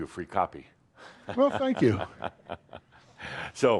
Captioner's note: chuckles